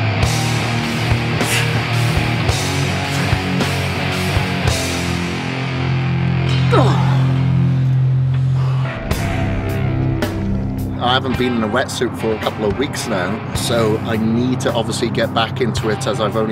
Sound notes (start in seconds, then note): 1.5 heavy rock beat; 6.6 grunting